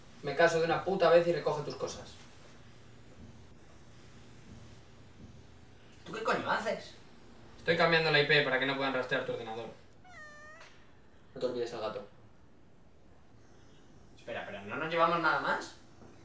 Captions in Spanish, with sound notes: Hazme caso de una puta vez y recoge tus cosas ¿Y tu que coño haces? Estoy cambiando la I.P. para que no puedan rastrear tu ordenador (Maullido) Y no te olvides al gato Espera, pero ¿no nos llevamos nada más?